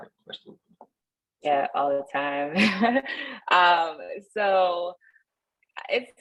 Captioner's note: laughter